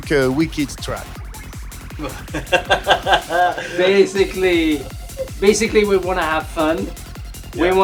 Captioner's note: laughter